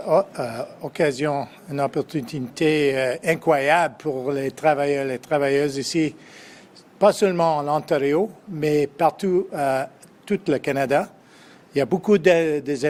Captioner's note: speaks French